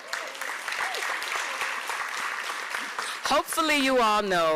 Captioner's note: applause